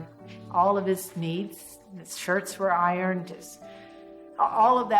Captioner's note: none